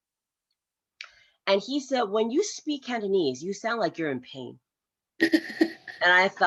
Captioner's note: laughs